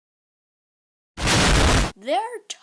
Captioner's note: explosion